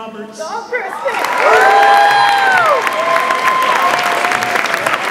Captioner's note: audience applauds and cheers